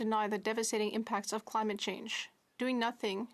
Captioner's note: speaking French